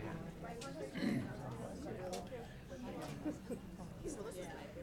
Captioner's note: people chattering